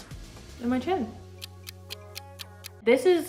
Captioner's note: ticking